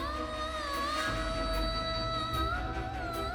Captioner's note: emotive vocalisation